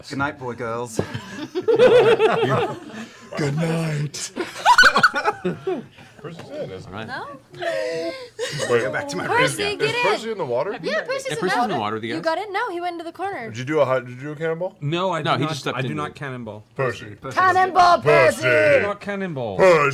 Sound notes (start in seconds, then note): 2.2 husky voice